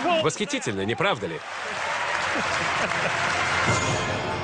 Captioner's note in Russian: Аплодисменты